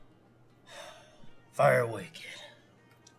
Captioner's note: Hank sighs